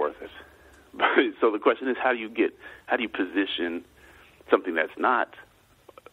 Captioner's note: chuckles